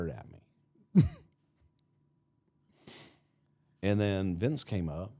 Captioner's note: chuckles